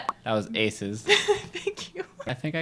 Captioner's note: laughs